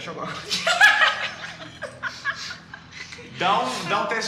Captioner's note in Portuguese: Risadas